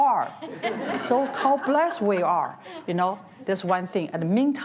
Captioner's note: audience laughs